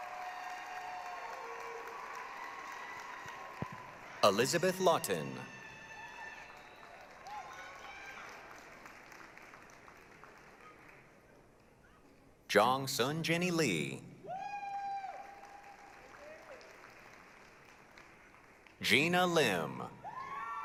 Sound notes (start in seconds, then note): 6.1 applause, cheering; 14.2 applause, cheering